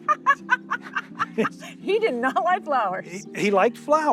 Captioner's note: laughs